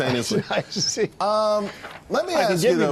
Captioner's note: laughter